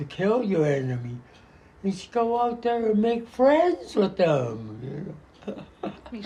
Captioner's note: <laughs>